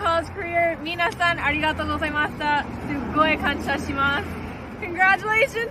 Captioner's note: speaks indigenous language